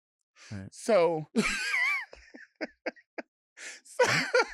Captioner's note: laughing